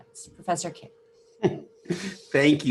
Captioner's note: chuckles